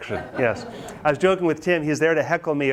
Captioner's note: students laugh